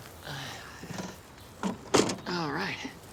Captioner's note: trunk shuts